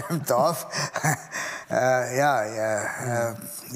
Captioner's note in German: Lachen